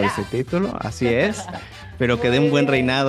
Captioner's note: laugh